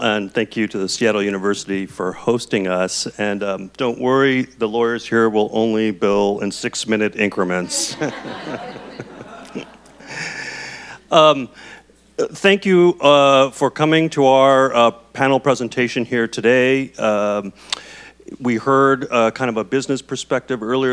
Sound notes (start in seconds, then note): 7.6 audience laughs; 7.6 chuckles